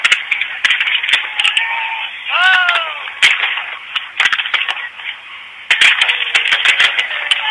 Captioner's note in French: feux d'artifices qui éclatent, gens qui crient